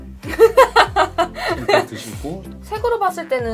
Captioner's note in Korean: 웃음